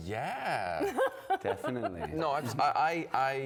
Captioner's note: laughter